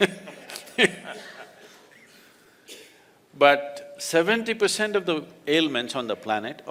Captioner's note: laughter